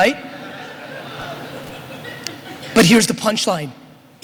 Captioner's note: audience laughter